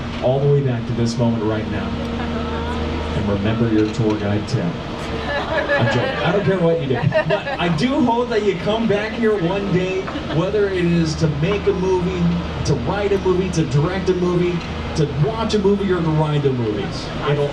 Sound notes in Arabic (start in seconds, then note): 5.1 يضحك الركاب